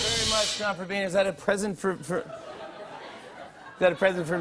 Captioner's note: laughter